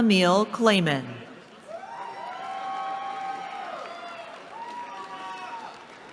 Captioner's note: cheering